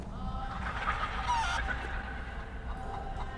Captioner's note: squawking and screeching